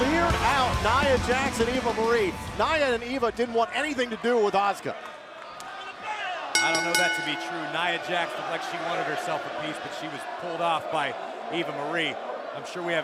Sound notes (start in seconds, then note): 6.5 bell